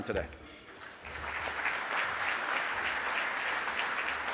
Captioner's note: audience clapping